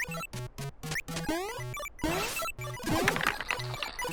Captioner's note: video game sound